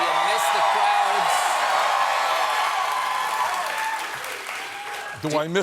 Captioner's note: cheers and applause